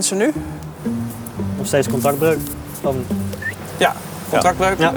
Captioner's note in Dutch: fluit